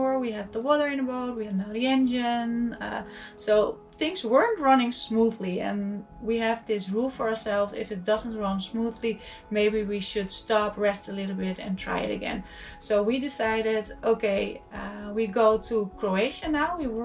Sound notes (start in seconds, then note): none